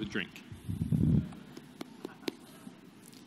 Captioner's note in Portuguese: Risos